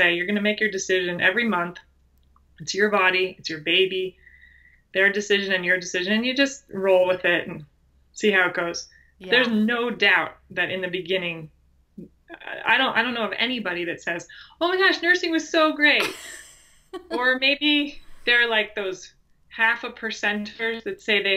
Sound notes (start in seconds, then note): 16.9 laughs